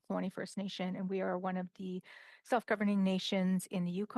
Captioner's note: speaking in alternate language